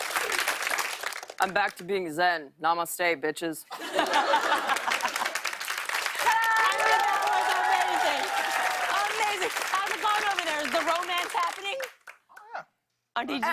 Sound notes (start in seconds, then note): 3.8 laughter and applause